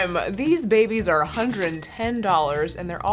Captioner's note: cash register dinging